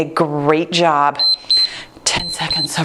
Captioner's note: timer beeps